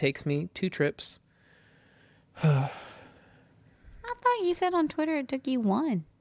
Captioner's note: sighs